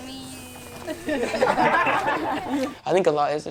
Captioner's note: laughter